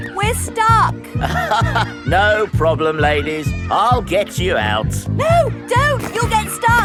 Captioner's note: chuckles